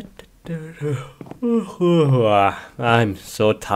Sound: yawn

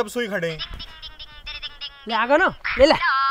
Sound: cellphone ringing

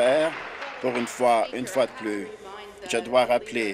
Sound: applause

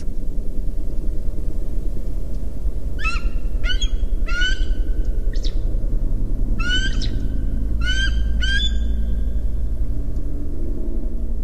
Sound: lonesome, loud bird shrieks and echoes loudly

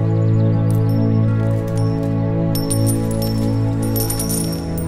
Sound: coins clinking

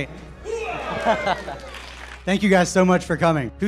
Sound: crowd cheering

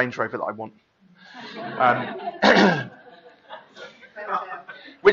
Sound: laughing

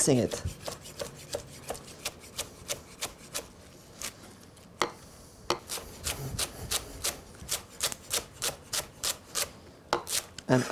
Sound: cutting sounds

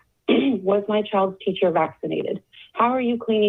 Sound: clears throat

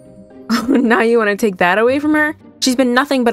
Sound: scoff

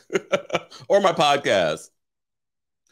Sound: laughs

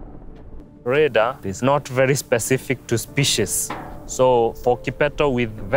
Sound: footsteps on metal

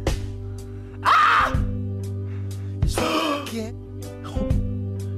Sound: gasps

